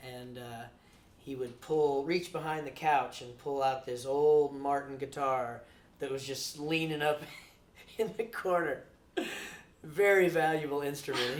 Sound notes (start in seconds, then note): 7.9 chuckles